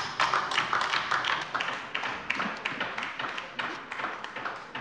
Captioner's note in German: Beifall bei der LINKEN